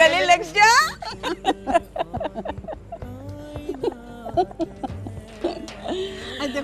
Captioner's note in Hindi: हंसी